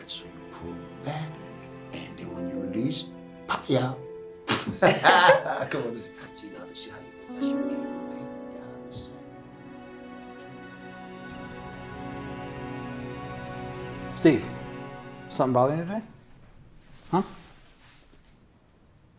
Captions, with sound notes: so you pull back and then when you release, pah-yow. (laughs) (softly chattering) - Steve, something bothering you today? Huh?